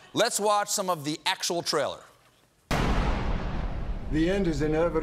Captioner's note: none